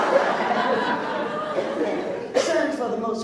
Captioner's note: laughs